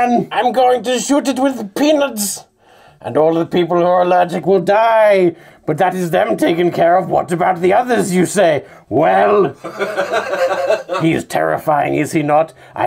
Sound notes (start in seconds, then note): 9.6 audience laughing